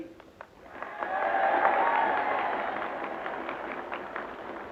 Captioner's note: audience cheering